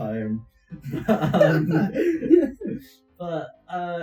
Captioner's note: laughing